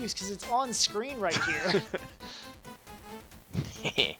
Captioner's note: laughs; laughs Mischievously